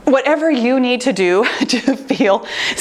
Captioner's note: chuckles